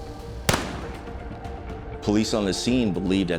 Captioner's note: gun firing